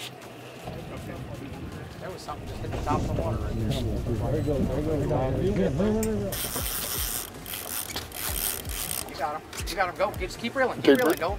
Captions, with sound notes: - There was something just hit the top of the water. (reeling noises) - You got 'em. You got 'em go. Just keep reeling. Keep reeling.